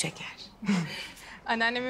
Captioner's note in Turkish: Gülüyor